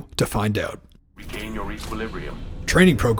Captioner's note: voiceover